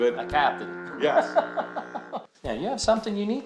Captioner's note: laughing